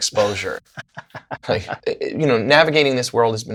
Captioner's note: laughter